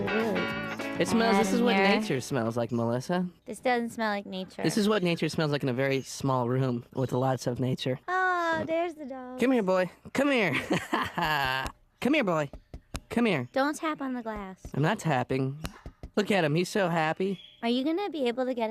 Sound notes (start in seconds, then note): 10.4 laughing; 15.6 tapping